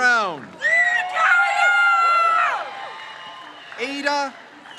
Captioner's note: crowd cheers